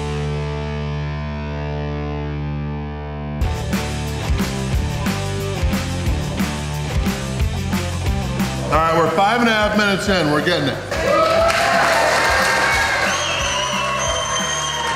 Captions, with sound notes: Alright, we're five and a half minutes in. We're getting it. (crowd cheering)